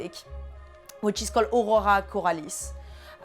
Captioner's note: speaks french